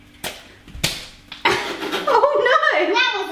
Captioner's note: laughs